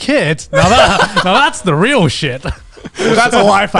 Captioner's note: laughs